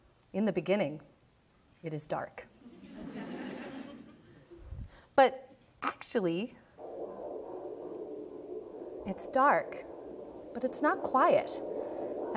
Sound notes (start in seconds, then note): 2.7 audience laughing; 6.8 whooshing sounds